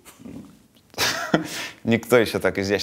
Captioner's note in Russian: смеется